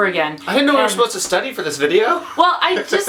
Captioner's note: laughs